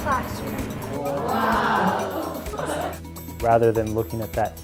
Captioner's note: laughing